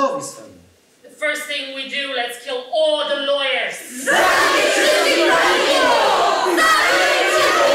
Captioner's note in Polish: Po angielsku